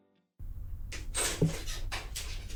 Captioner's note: door opening